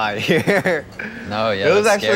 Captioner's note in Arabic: ضحك